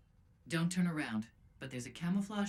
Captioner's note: over comms